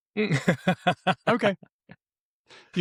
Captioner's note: laughs